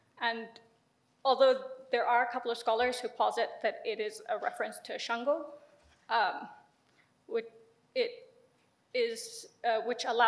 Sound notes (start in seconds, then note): 6.0 speaks in foreign language